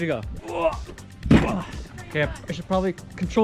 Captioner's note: hitting floor